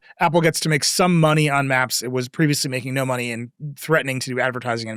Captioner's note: none